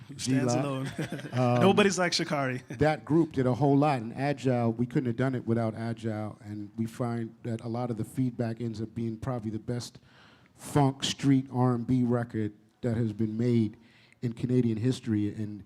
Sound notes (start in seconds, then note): 1.2 chuckle